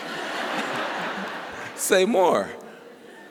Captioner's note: laughter